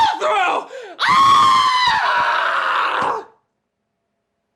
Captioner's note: pure enraged screaming